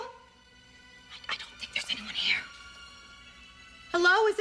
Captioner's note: whispering